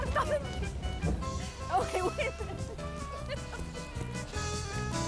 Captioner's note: laughs